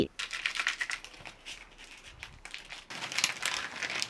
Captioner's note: package crinkling